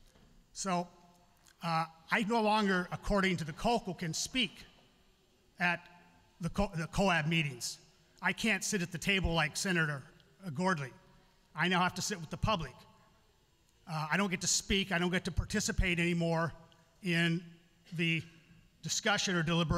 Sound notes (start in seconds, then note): none